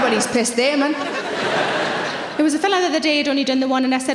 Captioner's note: audience laughing